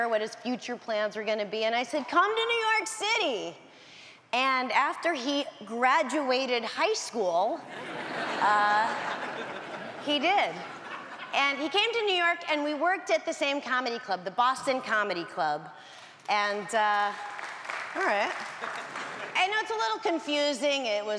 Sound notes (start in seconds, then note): 17.1 audience applauds